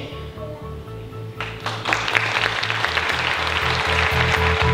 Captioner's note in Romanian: Aplauze